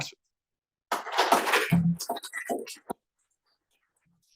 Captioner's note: applause